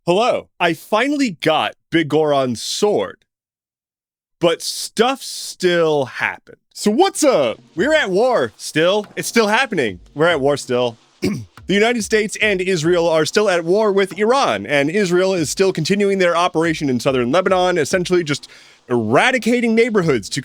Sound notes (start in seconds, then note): 11.2 clearing throat